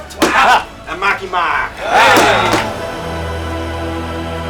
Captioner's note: team cheering